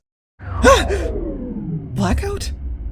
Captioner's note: yelp